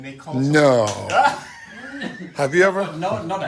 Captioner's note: laughs